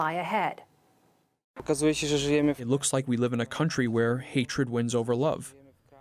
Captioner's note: through translator